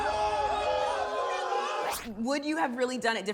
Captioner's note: yelling